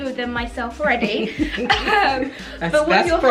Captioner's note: laughs